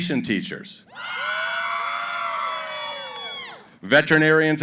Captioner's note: cheering